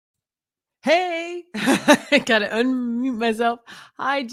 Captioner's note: laughs